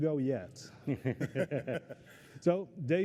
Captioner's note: laughter